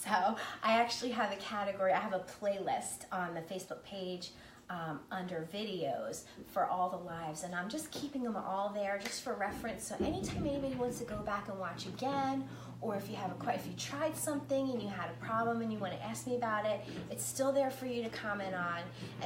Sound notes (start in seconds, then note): none